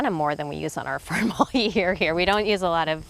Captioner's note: laughing